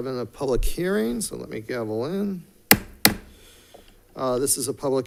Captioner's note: gavel thudding